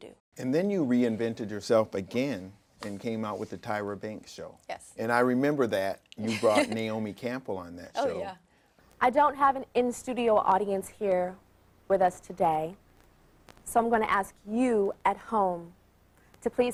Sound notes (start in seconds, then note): 6.2 laughing